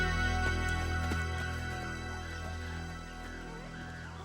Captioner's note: animals squealing